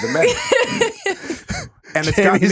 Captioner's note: laughing